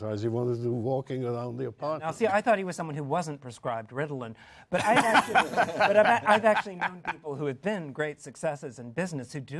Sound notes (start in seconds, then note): 4.7 laughter